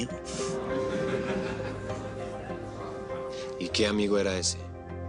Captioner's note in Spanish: Comentarios y risas